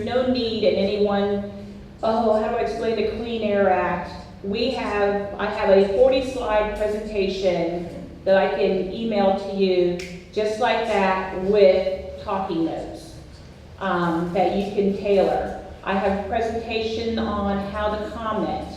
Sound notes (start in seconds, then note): 9.9 snaps fingers